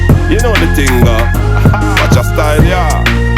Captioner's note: ha ha